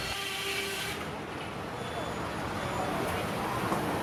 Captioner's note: saw cutting